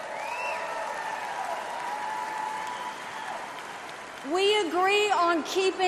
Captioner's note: crowd cheers